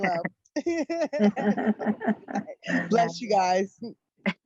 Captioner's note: laughing